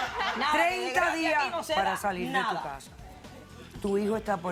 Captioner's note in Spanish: Carcajadas